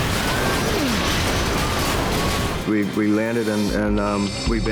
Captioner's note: tires screech; grunts